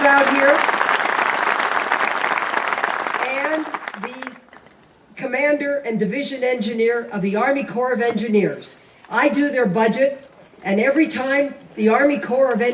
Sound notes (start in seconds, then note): 3.8 applause